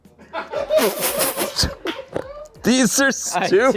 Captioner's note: everyone laughs